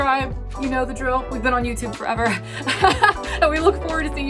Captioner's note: laughs